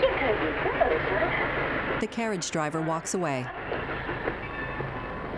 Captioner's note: train chugging; train bell chiming